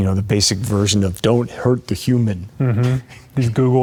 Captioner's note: laughs